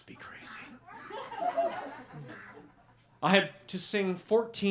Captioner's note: laughter